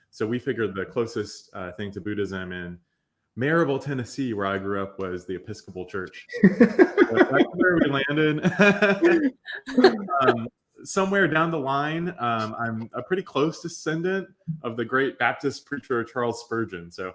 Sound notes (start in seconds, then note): 6.3 laughing